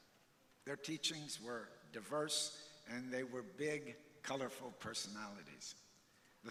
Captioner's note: none